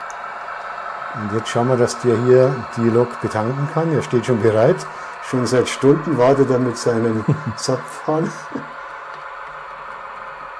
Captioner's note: laughs